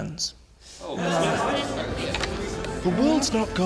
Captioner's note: crowd talks amongst themselves